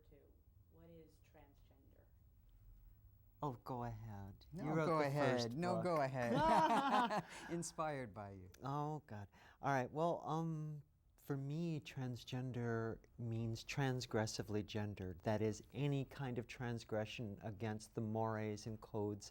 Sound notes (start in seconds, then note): 6.2 laughter